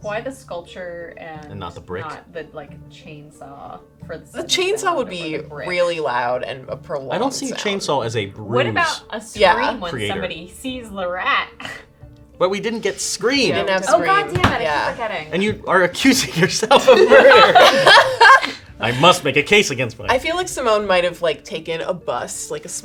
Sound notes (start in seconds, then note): 16.6 laughing